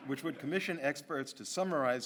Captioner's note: audience laughs